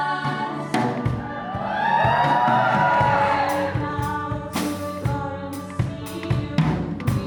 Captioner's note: audience cheers